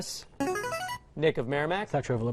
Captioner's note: buzzer